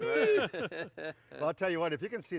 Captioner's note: laughing